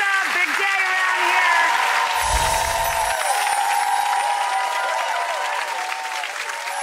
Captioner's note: audience applauds; musical chimes